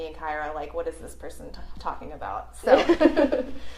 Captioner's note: laughter